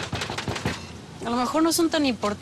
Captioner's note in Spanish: golpes